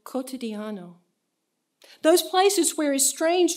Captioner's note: in foreign language